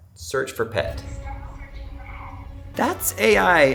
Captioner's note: vacuum